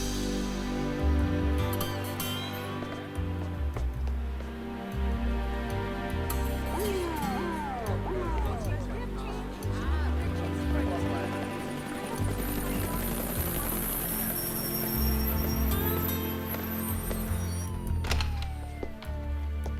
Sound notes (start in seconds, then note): 6.7 siren wails; 6.8 overlapping chattering; 11.9 helicopter wings whirring